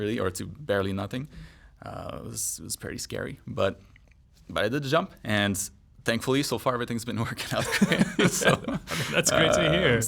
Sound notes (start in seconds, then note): 7.7 laughs